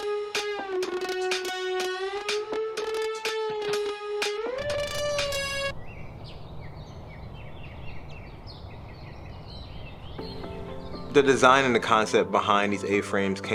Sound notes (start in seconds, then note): 4.6 birds calling; 10.1 relaxing music